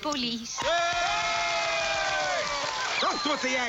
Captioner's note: cheering